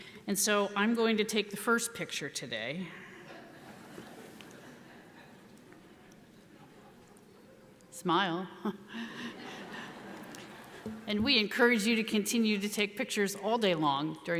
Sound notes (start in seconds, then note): 3.3 audience laughs; 8.7 laughs; 9.0 audience laughs